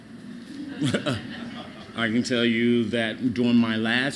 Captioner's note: laughter